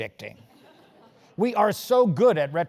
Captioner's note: laugh